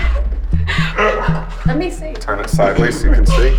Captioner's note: laughing